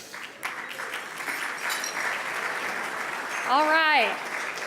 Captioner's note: audience applauding